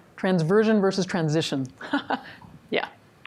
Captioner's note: laughs